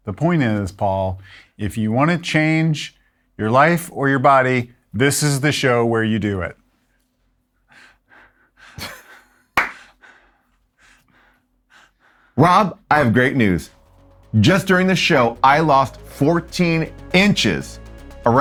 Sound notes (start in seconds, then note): 7.6 panting; 8.8 laughs and claps